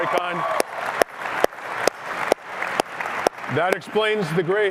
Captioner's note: cheering